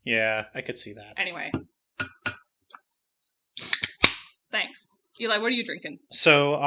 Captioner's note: cracks open bottle